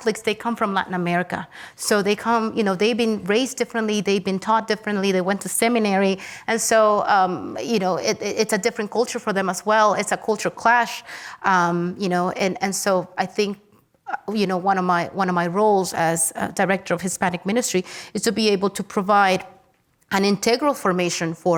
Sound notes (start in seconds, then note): none